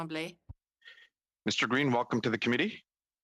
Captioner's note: speaking French